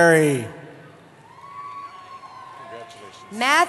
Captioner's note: cheering